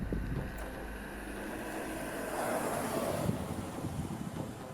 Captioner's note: traffic driving